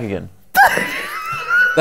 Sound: laughs

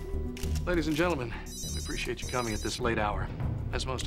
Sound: ringtone

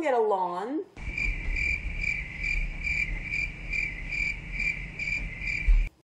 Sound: cricket noises intensify

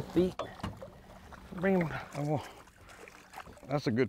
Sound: water splashes

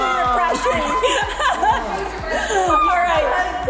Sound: laughing

